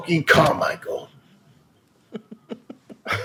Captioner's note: laughter